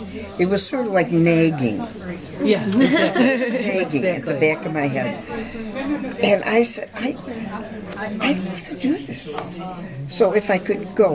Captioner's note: laughter